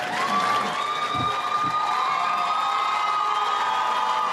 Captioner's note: audience applauds